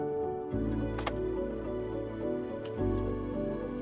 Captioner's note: filter clicks